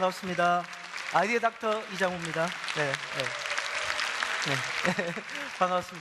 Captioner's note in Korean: 박수